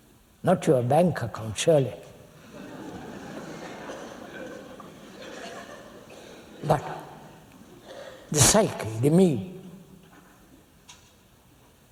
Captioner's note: laughter